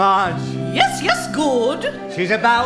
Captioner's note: impersonating Marge